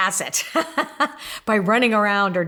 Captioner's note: laughing